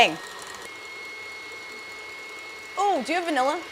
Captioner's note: high-pitched whining